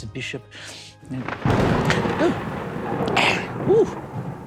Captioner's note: thunder roaring